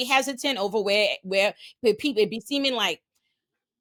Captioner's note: none